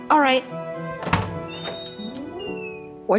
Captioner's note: door opens, wind blows, and music that sounds like reject starts up